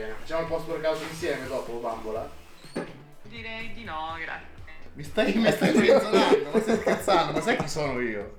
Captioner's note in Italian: risate